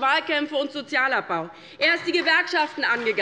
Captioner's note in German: Beifall bei Abgeordneten der LINKEN und der SPD